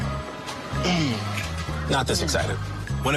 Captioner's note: grunting